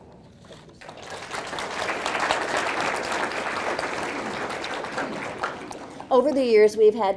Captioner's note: audience clapping